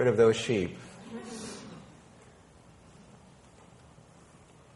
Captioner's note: people laughing